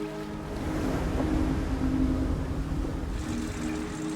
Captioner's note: waves crashing